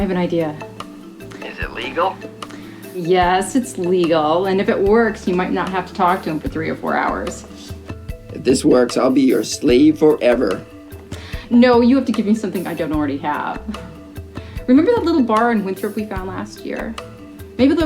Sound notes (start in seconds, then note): 13.6 laughs